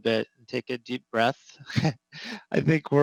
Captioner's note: laughs